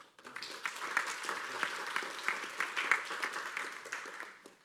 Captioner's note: applause